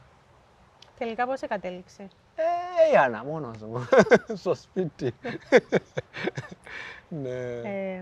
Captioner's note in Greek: γέλια